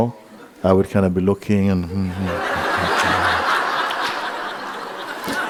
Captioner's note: laughter